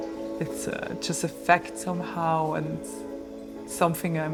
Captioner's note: water running